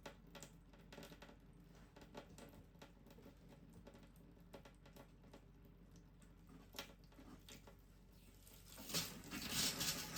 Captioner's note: water running